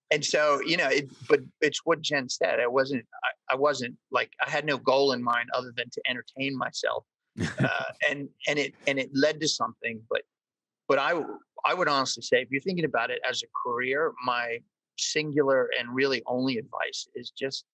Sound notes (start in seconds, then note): 7.4 laughs